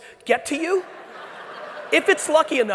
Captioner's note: audience laughing